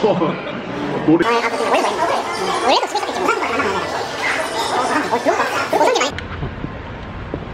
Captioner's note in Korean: 폭풍 수다